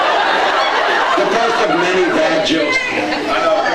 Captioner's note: laughs